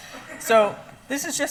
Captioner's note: laughing